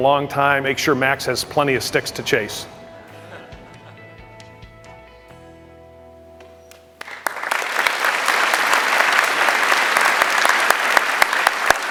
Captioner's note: applause